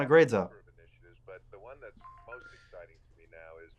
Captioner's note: notification bell dinging